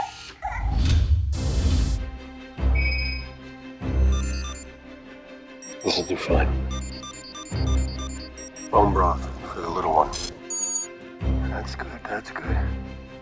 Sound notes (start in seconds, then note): 2.3 high-pitched beeping; 6.7 beeping